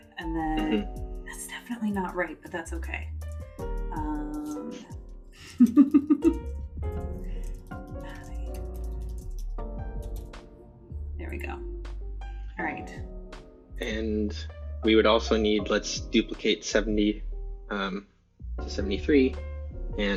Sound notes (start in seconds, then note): 5.4 laughter